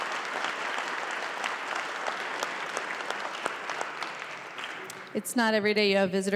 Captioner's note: applause